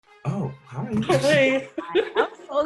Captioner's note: softly laughs